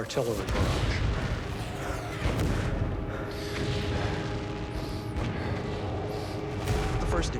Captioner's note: bombs exploding; heavy breathing